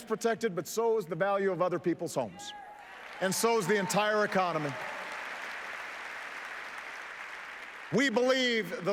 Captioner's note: applause